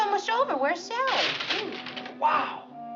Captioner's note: boards breaking